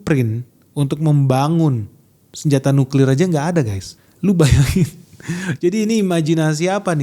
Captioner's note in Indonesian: tertawa